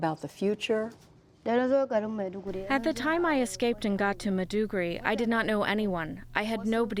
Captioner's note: through translator